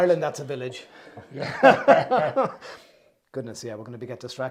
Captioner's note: laugh